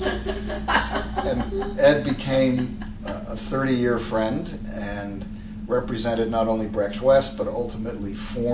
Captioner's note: laughter